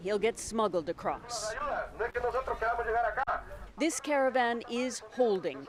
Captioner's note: speaking foreign language